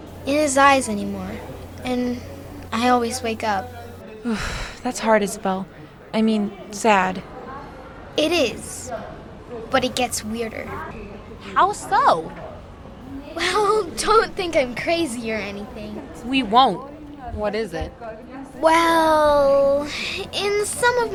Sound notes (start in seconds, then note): 3.6 sighing